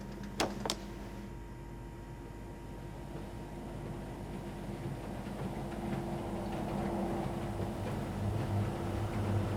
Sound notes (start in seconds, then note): 0.7 on switch; 3.6 washing machine starts